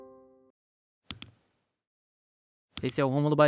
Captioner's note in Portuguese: Clique do mouse